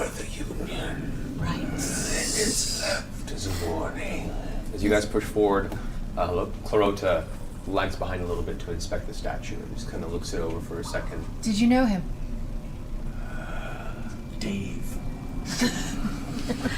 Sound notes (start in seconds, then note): 12.9 low, breathy voice